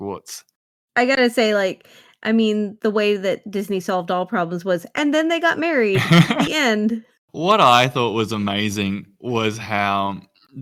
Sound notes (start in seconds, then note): 5.9 laughs